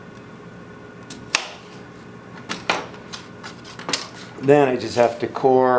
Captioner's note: knife thunking